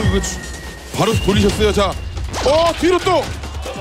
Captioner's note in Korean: 두근